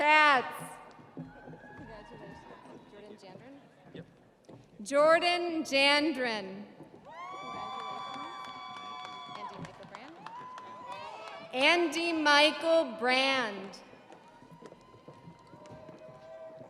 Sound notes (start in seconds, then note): 11.5 audience applauding; 11.5 audience cheering